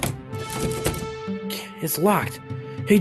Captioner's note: door rattles